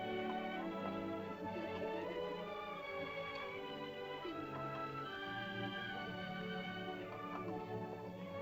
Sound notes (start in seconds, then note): 0.0 soft music; 1.4 children's voices; 7.7 soft music